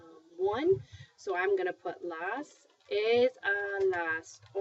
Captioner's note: speaking spanish